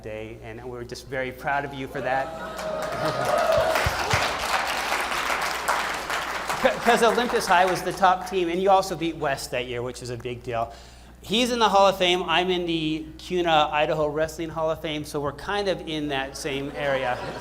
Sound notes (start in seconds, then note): 2.4 applause